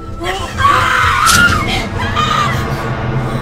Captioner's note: screaming